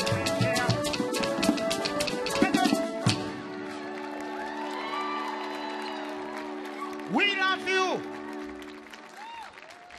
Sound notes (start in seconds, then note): 3.4 audience clapping; 3.4 audience cheering